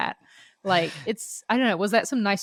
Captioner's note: laughs